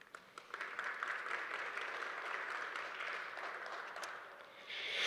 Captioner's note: audience applauding